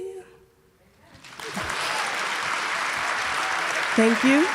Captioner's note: audience applauding